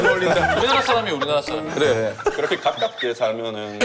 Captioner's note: hahahahahaha